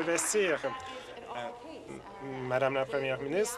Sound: applause

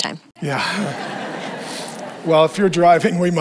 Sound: congregation laughs

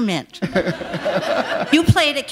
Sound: laughter

